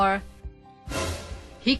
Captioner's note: shocked sound effect